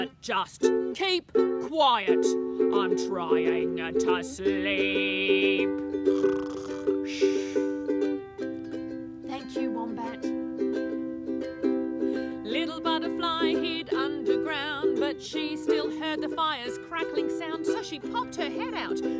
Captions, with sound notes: But just Keep Quiet. I'm trying to sleep." (loud snoring) (speaking quietly) "Thank you Wombat" (sings) Little Butterfly hid underground but she still heard the fire's crackling sound So she popped her head out